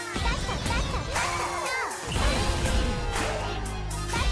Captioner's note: chanting and counter-chanting